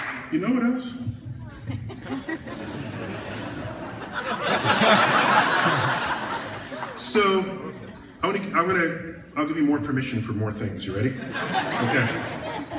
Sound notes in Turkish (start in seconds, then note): 1.5 Gülüşmeler; 3.9 Kahkahalar